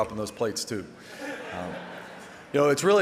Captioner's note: audience laughing